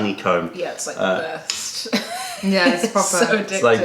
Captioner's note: laughter